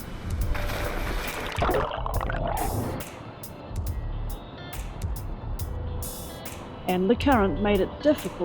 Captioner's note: splash